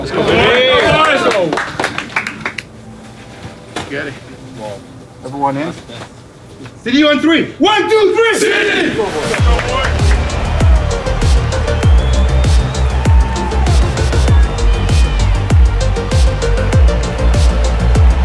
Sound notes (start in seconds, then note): 0.0 people cheering; 9.0 upbeat music; 10.1 people cheering